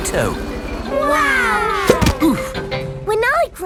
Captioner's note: crowd